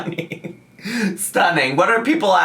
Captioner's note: laughing